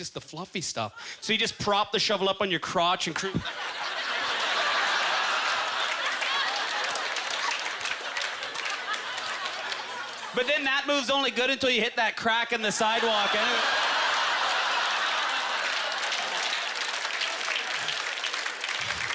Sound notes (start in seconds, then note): 4.3 applause; 4.9 audience laughter; 12.5 audience laughter; 15.4 applause